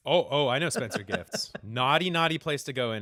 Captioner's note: laughter